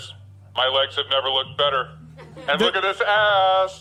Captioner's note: audience laughter